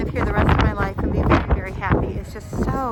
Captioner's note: wind flapping